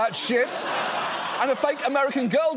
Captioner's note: audience laughing